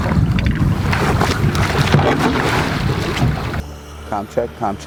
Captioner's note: water splashing